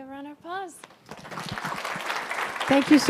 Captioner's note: audience applauding